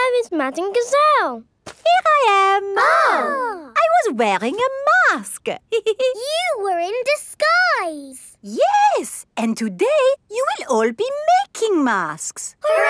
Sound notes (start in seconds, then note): 2.6 exclaiming; 5.7 giggles